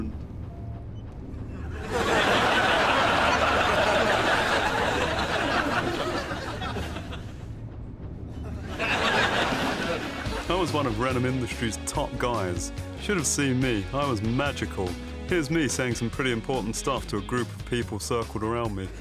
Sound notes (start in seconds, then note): 1.6 audience laughs